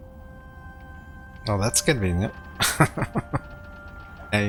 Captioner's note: laughing